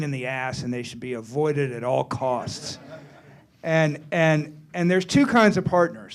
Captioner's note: laughter